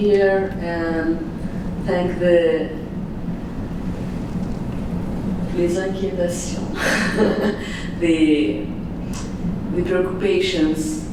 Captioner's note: non english speach; laughs